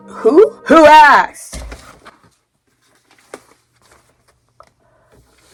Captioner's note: music stops